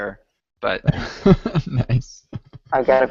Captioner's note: laughs